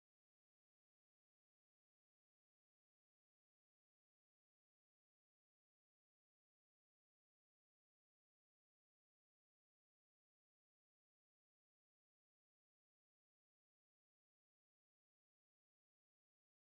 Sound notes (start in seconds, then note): none